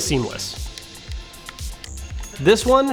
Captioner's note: clicking